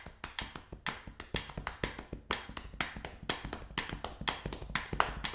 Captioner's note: intense tapping and ticking sound